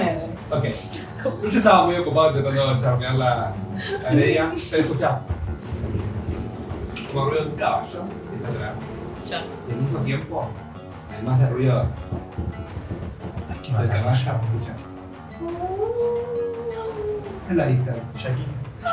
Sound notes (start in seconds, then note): 12.0 horse hooves; 14.7 wolves howling